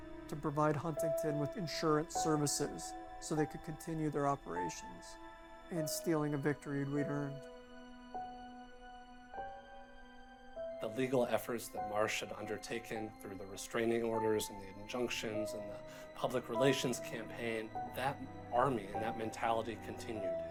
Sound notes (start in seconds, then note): none